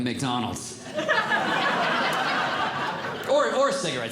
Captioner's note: audience Laughing